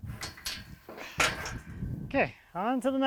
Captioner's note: fence rattles